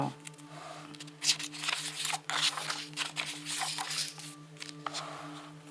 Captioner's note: paper rustling